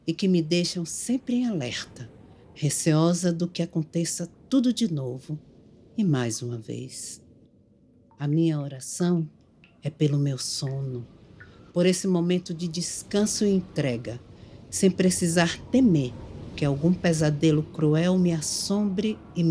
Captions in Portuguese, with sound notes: e que me deixam sempre em alerta, receosa de que aconteça tudo de novo e mais uma vez. [gotejos de água] A minha oração é pelo meu sonho, por esse momento de descanso e entrega sem precisar temer que algum pesadelo cruel me assombre